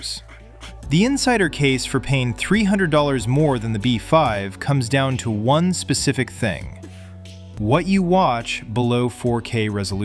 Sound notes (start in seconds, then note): 0.7 thoughtful